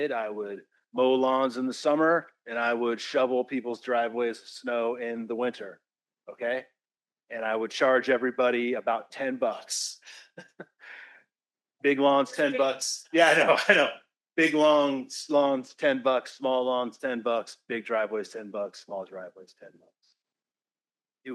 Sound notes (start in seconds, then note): 10.2 laughs